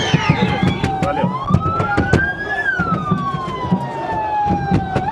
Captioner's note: fans banging on windows